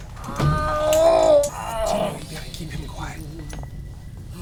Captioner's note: radar blipping